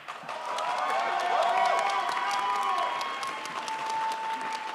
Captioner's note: crowd applauds